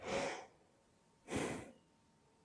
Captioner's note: small sigh